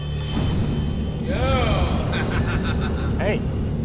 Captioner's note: laughs